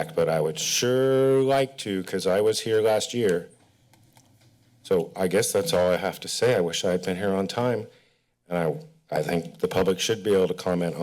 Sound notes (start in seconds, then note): 3.5 pause